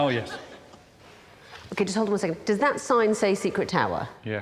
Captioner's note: audience laughing